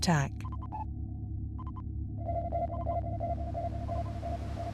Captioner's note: sonar beeping